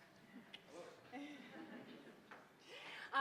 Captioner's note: laughter